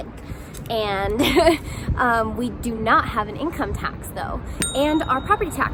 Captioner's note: laughs